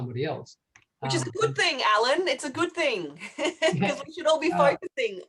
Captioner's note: laughs